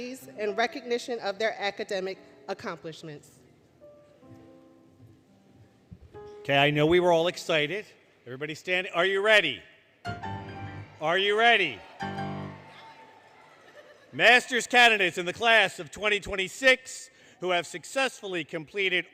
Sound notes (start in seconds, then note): 12.0 cheering, Music; 12.6 audience Chatter